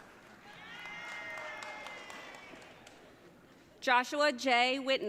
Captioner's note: audience cheering